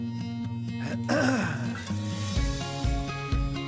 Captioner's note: man clears his throat